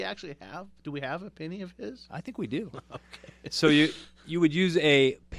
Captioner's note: laughs